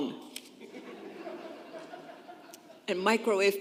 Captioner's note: congregation laughing